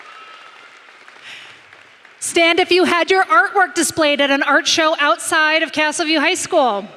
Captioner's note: applause